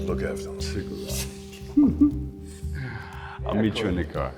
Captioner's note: chuckles